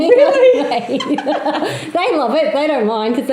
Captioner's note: laughs